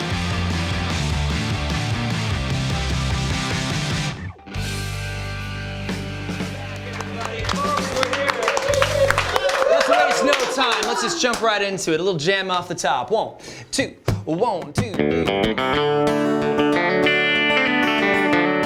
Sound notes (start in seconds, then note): 8.3 applause; 14.7 playing guitar